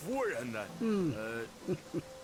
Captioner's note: nonverbal grunt as interjection